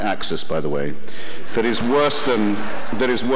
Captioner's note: audience laughter